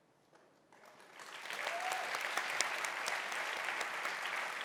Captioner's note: audience cheering